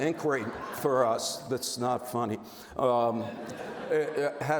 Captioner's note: audience laughs; audience laughs